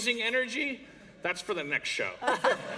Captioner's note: laughter